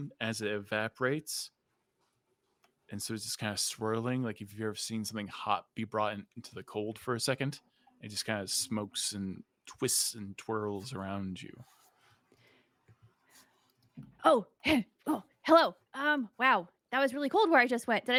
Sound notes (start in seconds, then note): none